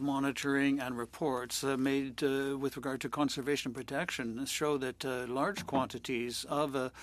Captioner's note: speaking French